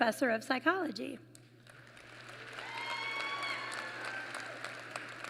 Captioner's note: applause